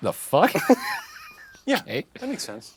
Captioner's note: all laughing